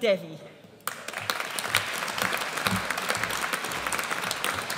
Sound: audience applauds

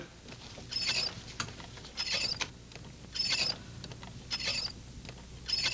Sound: butter churn squeaking

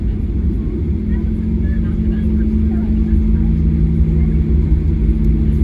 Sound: engine Slowing

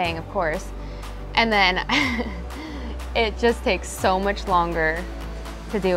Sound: chuckles

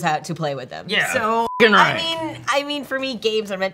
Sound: beep

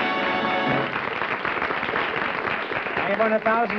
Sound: applause

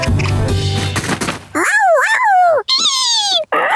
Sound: meowing; squeaking, barking

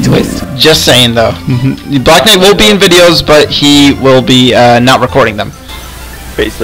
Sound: chuckle

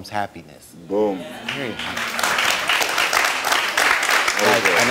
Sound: audience applauds

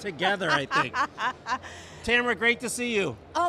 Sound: laughs

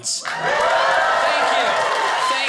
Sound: audience cheers

